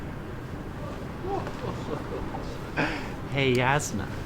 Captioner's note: chortling